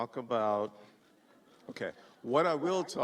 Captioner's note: laughter